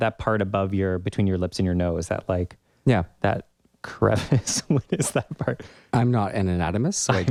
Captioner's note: laugh